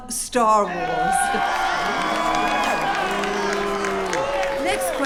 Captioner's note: crowd cheering and jeering